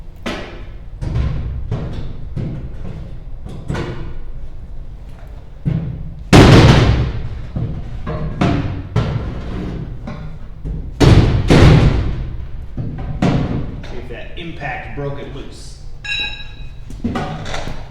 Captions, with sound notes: [hammering] Let's see if that impact broke it loose.